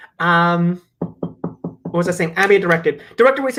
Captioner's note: taps on table